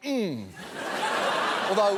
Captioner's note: studio audience laughing